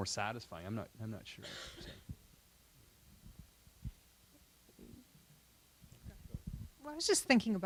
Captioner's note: silence